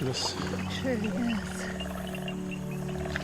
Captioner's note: animals calling